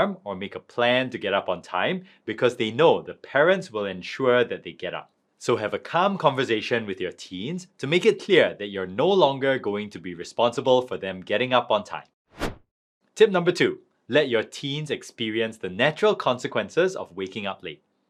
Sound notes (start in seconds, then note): 12.3 transition whooshing